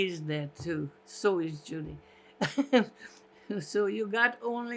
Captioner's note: laughing